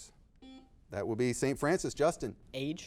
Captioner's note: buzzer beeping